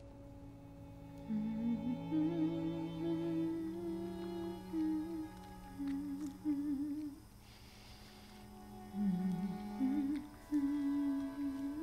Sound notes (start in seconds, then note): 1.8 dramatic music; 1.8 humming